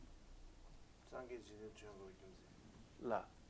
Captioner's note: non-english speech